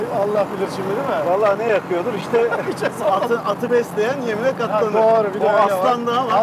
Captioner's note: laughing